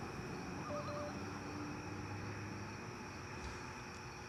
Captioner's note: phone beeps